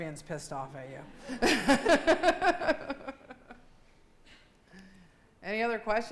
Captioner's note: laughing